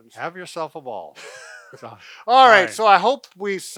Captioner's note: laughs